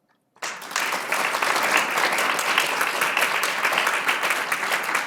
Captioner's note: audience applauding